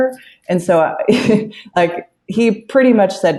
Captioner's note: laughs